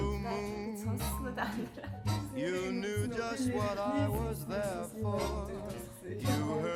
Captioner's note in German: Gespräch über eine bekannte Serie wird immer lauter